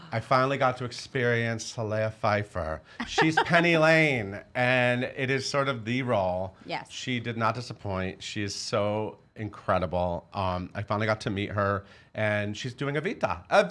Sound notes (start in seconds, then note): 3.0 laughing